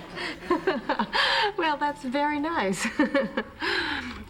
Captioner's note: laughs